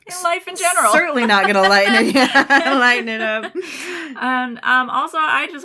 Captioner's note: laughter